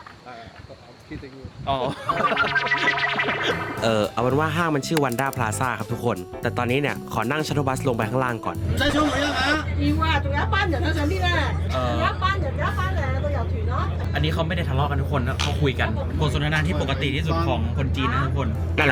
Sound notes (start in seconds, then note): 8.7 loud chatter